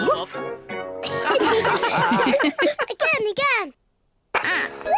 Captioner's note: all giggle